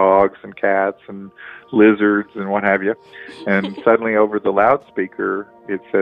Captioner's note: laughs